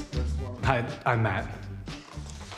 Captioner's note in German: englisch